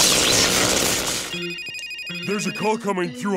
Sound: phone ringing

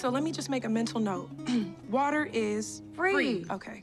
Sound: clears throat

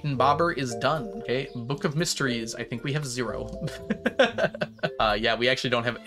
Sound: laughs

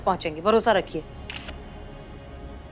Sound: camera clicking

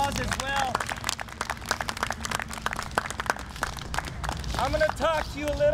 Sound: audience applauding

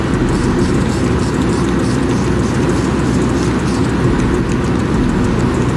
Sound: spray paint cans hissing; spray paint can rattling

